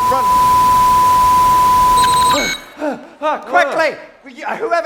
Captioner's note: broken TV bleep noise